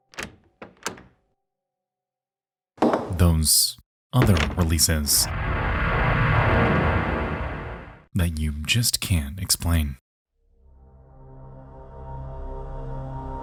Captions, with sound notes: (door opens) Those other releases, (air whooshing) that you just can't explain? (eerie music)